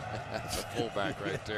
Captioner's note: laughter